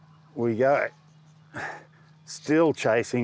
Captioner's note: grunts with effort